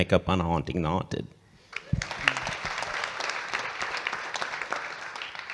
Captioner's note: audience clapping